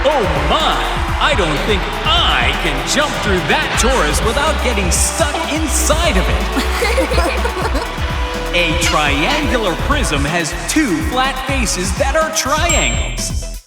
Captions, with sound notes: Oh my, I don't think I can jump through that torus without getting stuck inside of it. (laughing) A triangular prism has two flat faces that are triangles.